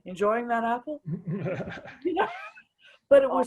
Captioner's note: chuckles